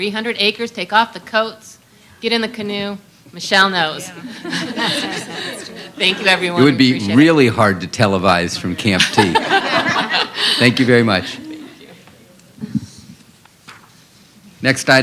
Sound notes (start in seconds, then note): 4.2 laughter; 8.9 laughter